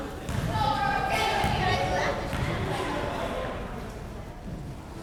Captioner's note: crowd members shouting